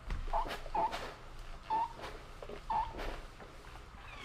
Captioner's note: press whining